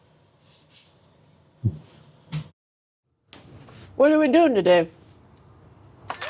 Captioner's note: none